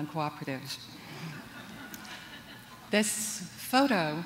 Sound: laughter

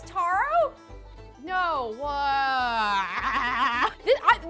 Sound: she groans

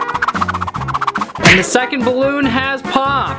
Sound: balloon popping

